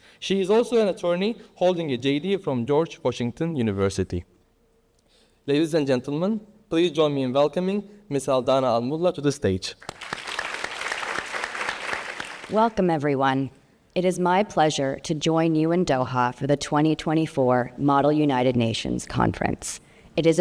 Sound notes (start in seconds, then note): 9.8 everybody applauding